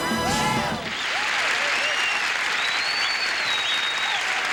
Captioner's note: audience applauding and cheering